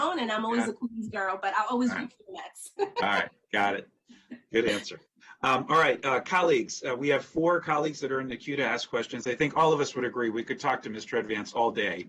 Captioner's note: laughter